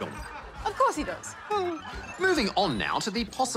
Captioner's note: chuckles